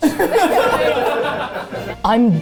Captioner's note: laughter